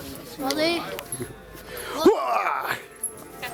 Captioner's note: man exclaims